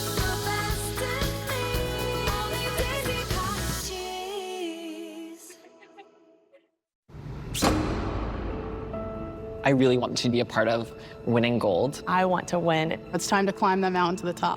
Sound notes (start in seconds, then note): 5.6 laughs